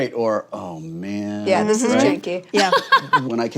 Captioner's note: laughs